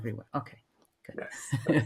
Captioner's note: laughs